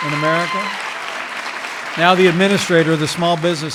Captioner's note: applause